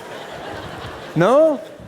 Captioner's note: congregation laughs